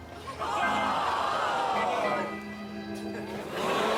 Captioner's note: audience groaning